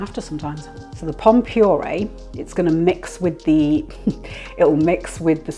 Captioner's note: laughs